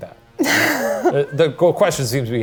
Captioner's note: laughs